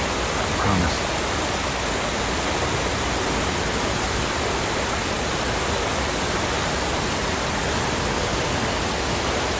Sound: water falling

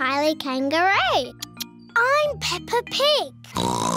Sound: oinks

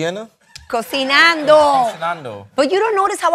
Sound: spanish

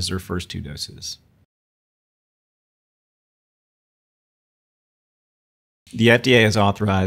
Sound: silence

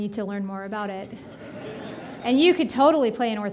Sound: audience laughing

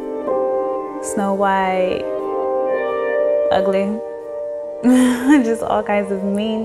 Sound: light chuckling

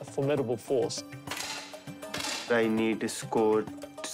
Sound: rifles fire

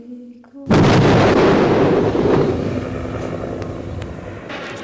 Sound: explosions

